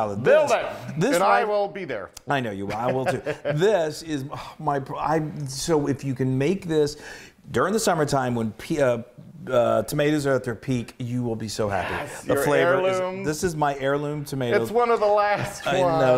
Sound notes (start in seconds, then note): 2.7 laugh